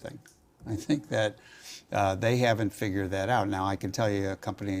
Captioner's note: laugh